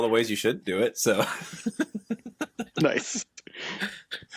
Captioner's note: laughter